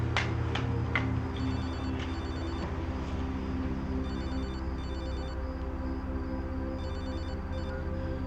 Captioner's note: phone Rings